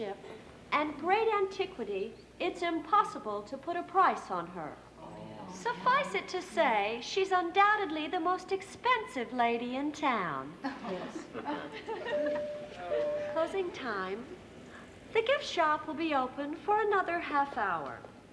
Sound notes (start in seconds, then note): 10.6 everyone chuckle; 12.1 bell dinging